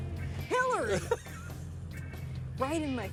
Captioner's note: Jerry laughs